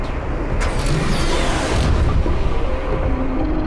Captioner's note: digital noises whir; upbeat music